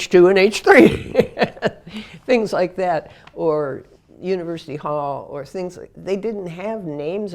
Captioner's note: laugh